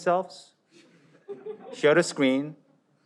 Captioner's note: audience laughs